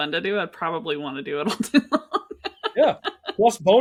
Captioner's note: laughing